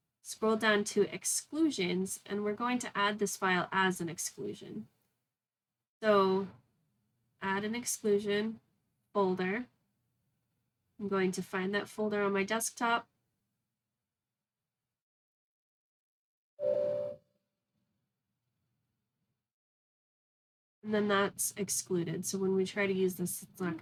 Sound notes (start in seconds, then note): 16.6 computer ding